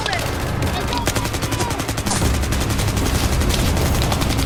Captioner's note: gunshots firing